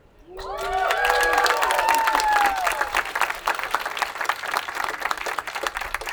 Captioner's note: attendees applauding and cheering